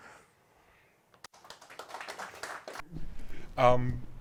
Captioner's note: audience clapping